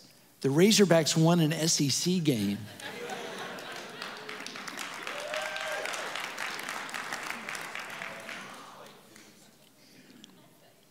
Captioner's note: audience Applauses And Cheers; more Laughter